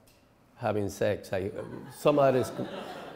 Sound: laughing

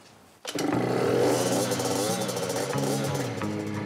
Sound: engine roars

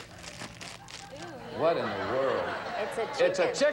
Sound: audience laughing

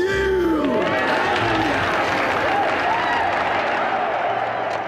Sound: cheering

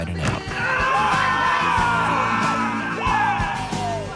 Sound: all shouting

